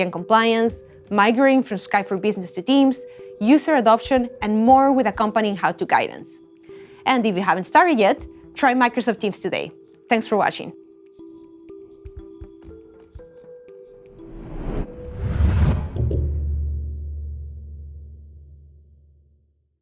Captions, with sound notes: and compliance, migrating from Skype for Business to Teams, user adoption, and more, with accompanying how-to guidance. And if you haven't started yet, try Microsoft Teams today. Thanks for watching. (calm music) (low whooshing)